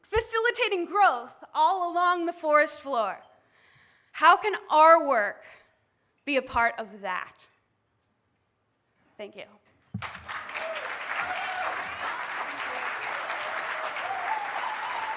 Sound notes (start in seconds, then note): 9.9 applause